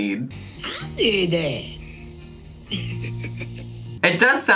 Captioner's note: laughing